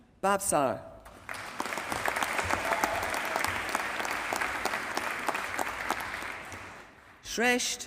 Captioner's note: applause